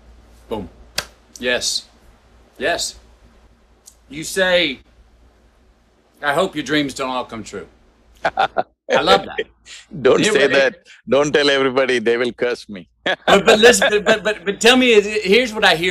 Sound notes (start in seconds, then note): 1.0 claps; 8.2 Sadhguru laughs; 13.0 laughs